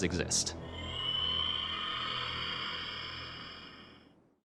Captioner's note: creature screeches